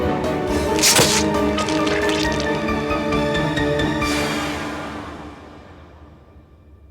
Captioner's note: sword slashing; dramatic music; dramatic music continues; sword squelches